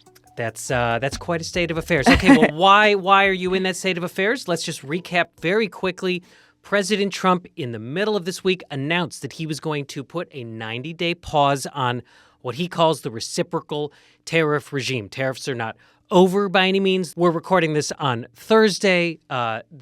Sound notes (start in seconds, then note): 1.9 chuckles